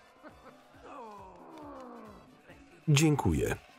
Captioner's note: groaning